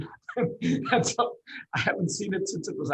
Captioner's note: laughs